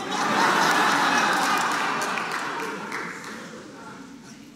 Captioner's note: audience laughing